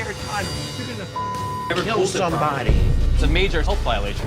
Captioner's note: beep; dramatic music